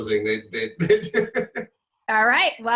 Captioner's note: laughing